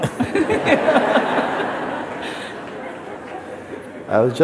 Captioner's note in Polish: śmiech